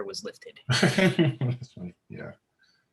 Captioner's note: giggling